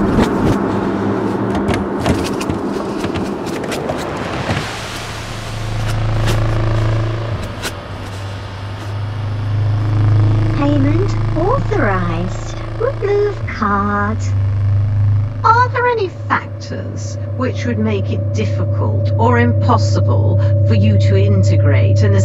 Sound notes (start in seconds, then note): 4.2 fan buzzing